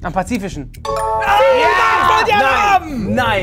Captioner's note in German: Klingeln